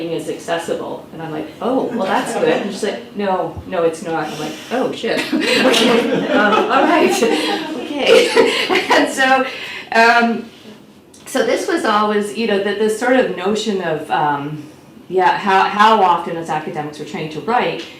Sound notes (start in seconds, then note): 9.1 laughs